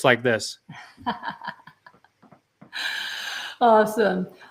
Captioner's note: laughs